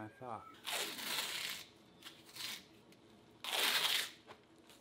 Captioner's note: tape ripping off